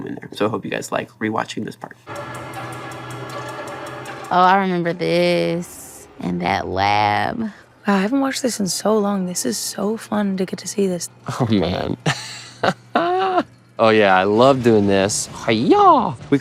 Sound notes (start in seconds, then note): 2.0 intense music; 11.4 laughs